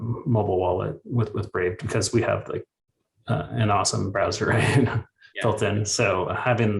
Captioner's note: chuckles